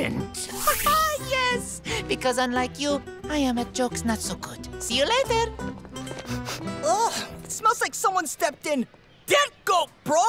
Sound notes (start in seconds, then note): 6.2 sniffing